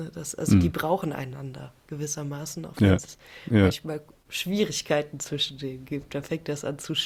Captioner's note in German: räuspern